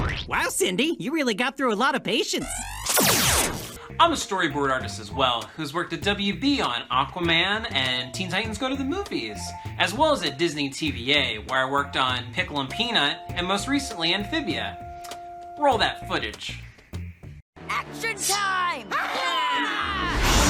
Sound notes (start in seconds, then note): 2.4 laser zaps; 18.9 characters roar; 19.7 dramatic music